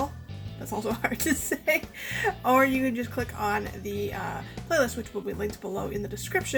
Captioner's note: aughs